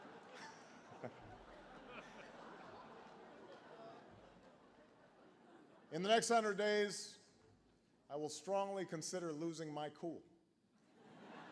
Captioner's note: laughter